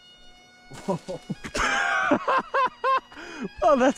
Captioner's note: laughing